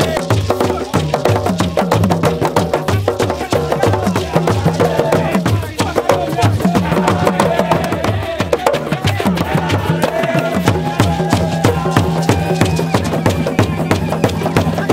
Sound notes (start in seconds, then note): 0.0 crowd; 0.0 drums Beat; 3.7 drums Beat; 5.0 crowd; 6.3 drums Beat; 7.9 crowd; 8.2 drums Beat; 9.3 crowd; 10.0 drums Beat